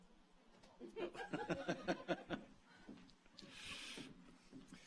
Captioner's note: audience laughs